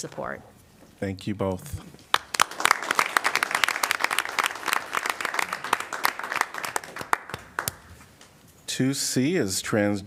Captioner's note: applause